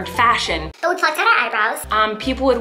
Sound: cartoon voice

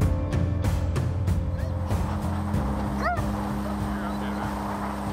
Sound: dog barking

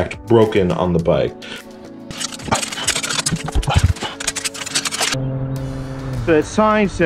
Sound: chain replacement noises

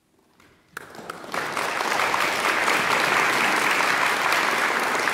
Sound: audience applauding

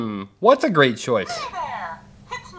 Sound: voiceover

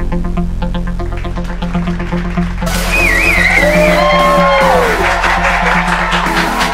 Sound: clapping, cheering, whistling

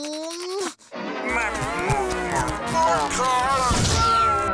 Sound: distorted talking

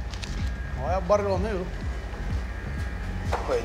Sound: spanish

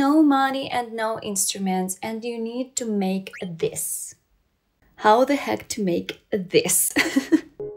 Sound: laugh

